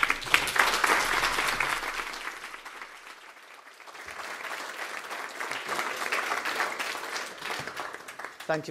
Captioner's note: applause